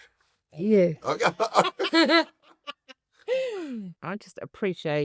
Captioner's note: laugh